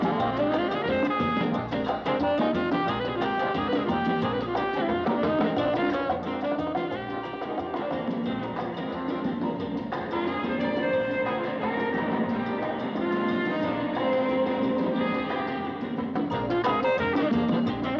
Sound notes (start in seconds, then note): none